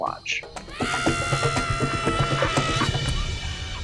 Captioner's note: jubulent shouting